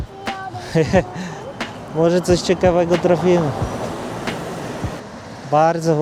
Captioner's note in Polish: śmiech